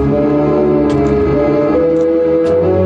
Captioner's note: none